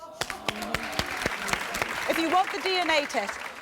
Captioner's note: applause